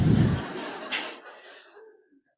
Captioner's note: laughter